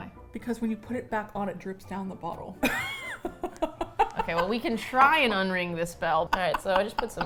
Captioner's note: laughs